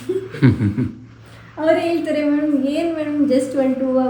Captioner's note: laughs